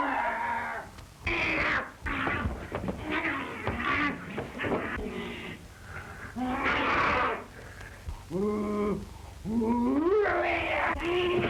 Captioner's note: screams; grunting